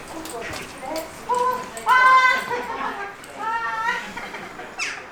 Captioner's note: laughter can be heard from inside